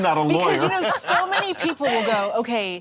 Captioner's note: laughing